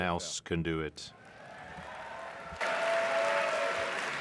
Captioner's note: speaking French